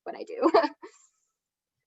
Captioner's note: chuckles